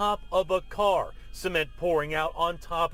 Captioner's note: siren sounding